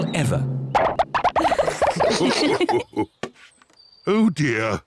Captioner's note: all laugh